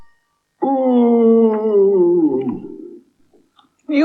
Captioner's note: cauldron Groans Loudly